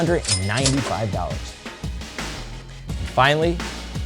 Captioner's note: cash register ringing